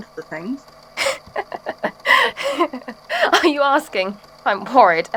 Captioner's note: laughs